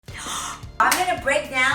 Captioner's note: gasps